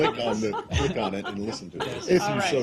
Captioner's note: laughter